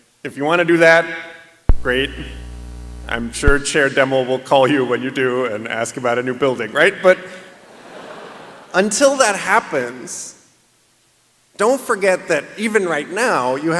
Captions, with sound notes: If you want to do that, great. I'm sure Chair Demmel will call you when you do and ask about a new building. [LAUGHTER] But until that happens, don't forget that even right now you